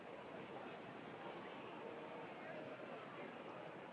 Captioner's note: crowd chattering